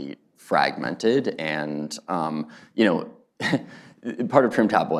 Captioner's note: laughs